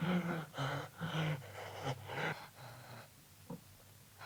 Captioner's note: Kurt gasping